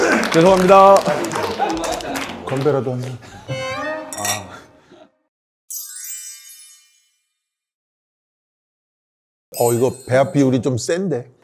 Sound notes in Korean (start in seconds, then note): 0.0 박수; 3.4 익살스러운 음악; 5.7 반짝이는 효과음